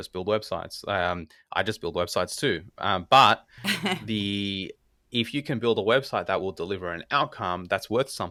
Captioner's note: laugh